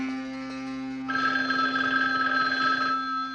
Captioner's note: phone ringing